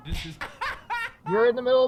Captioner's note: Slogoman laughing